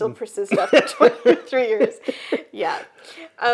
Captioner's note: both laugh